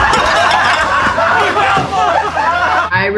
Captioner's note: dishes breaking; all laughing